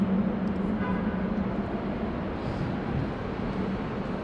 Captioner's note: car horn honking